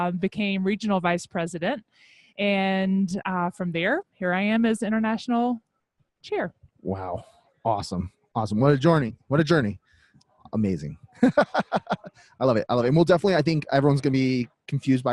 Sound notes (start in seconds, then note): 11.2 laughs